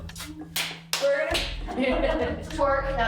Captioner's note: clapping